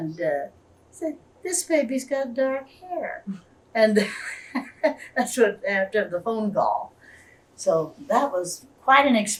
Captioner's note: laughs